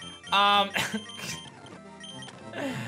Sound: giggles

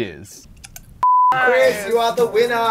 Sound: click; beep

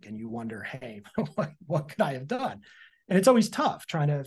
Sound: chuckles

